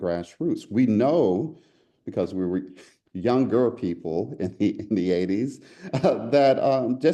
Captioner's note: laugh